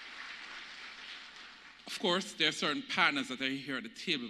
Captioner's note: applause